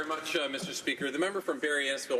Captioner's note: some Applause